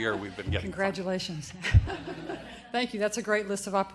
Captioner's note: audience laughter